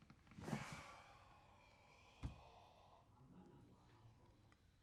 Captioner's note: sighs